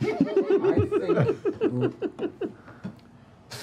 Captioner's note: laughter